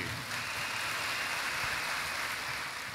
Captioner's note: applause